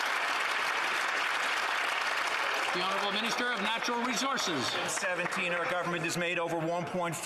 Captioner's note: some Applause